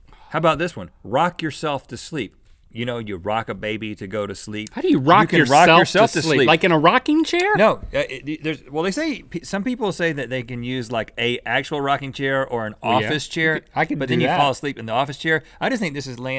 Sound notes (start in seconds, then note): 8.0 stammering